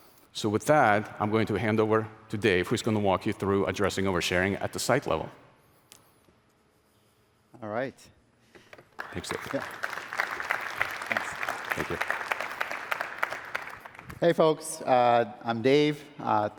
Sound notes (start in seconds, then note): 8.7 applause